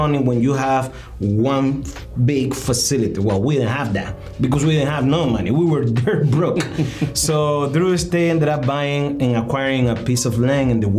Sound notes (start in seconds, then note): 6.3 laughing